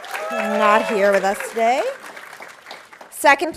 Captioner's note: audience applauding